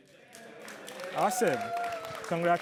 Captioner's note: applause